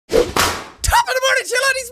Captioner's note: Whapish